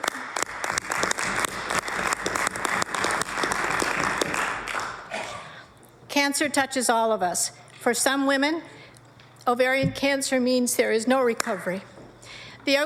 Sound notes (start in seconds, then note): 7.3 applause